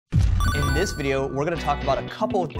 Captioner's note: beep